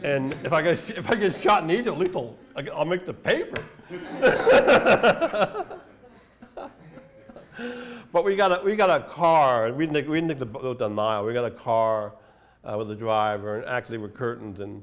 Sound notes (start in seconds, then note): 0.0 laughter; 3.8 laughter